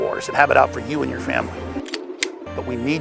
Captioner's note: gun cocking